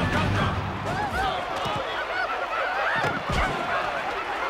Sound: dancers whooping, audience cheering

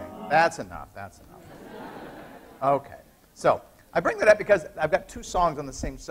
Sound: laughter

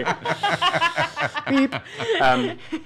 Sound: group laughing

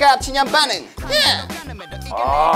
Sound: exclaiming

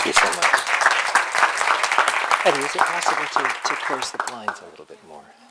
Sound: clapping; pause

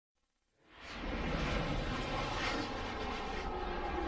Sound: dramatic sounds

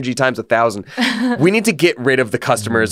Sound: laughs

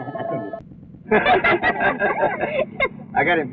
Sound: laughs

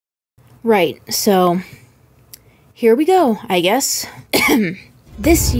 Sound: coughs

